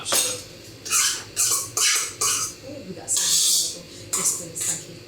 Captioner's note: horrible scrapey noises